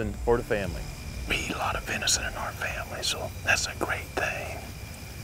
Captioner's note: whispering